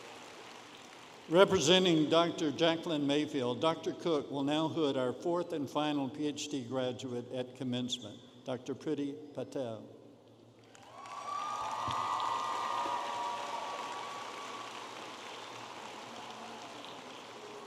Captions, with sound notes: Representing Dr. Jackline Mayfield, Dr. Cook will now hood our fourth and final PhD graduate at commencement, Dr. Prity Patel. (audience applauding and cheering)